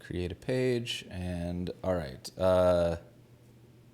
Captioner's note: none